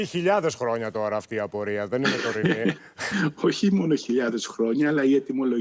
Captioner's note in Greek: γέλια